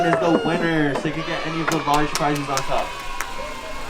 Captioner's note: crowd cheering